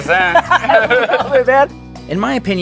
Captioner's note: laughing